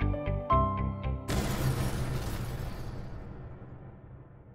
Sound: flames booming

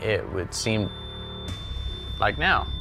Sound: beeps

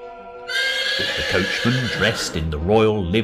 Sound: horse neighing

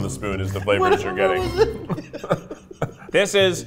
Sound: laughing

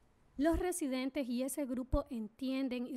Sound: speaking spanish

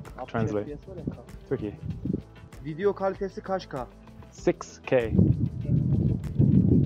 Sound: speaking Turkish

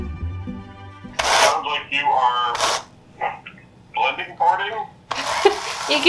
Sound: on phone

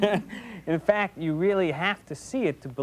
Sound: laughing

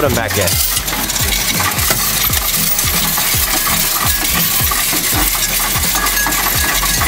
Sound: upbeat music; coins rattling

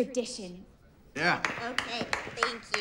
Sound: clapping

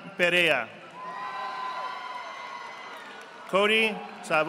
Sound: audience applauding

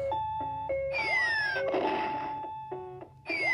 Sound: bomb explodes

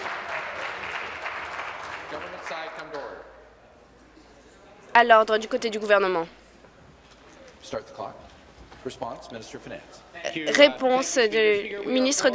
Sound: applause

